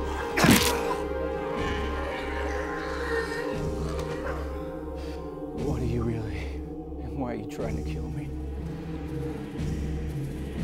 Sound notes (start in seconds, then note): 0.4 blood splatters